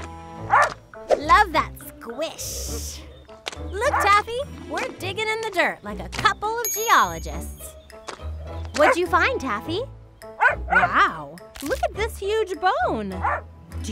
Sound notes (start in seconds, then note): 10.4 Taffy barks